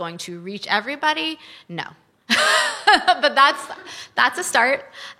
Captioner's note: laughs